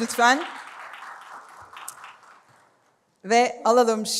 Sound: applause

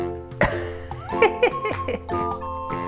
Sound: laughs

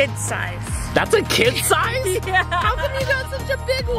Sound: laughs

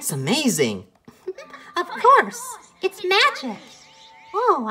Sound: giggles

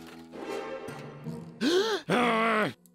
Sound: gasp; loud grumbling

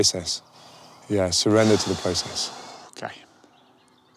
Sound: deep breath

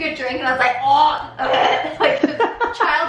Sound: gagging

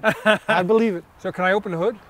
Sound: laughs

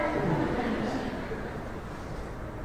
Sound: laughter

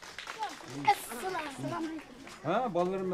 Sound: applause; speaking Uyghur

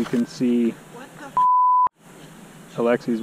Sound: beep

